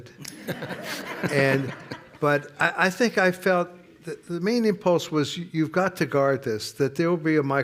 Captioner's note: laughter